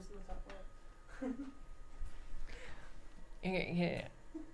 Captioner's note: light laughter